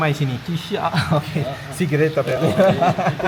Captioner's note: laugh